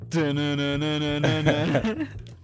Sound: laughing

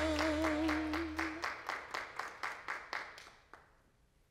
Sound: applause

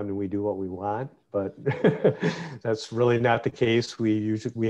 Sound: laughs

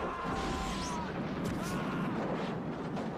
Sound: screaming stops

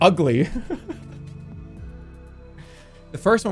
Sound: soft laugh

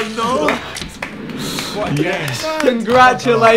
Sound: applauding

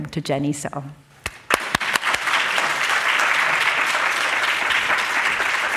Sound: applause

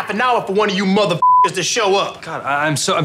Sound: beep

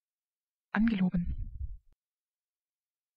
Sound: fast Pronunciation

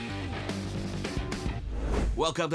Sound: upbeat music; air swooshing

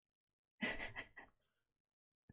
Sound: laughs

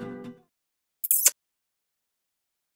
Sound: kissing sound

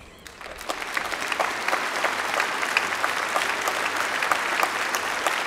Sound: applause

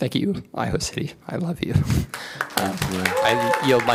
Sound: applause

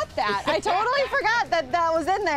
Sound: laughing

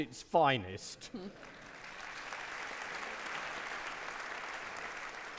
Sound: audience clapping

